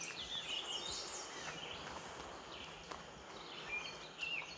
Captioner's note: birds chirping